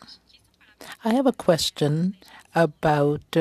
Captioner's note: speaking French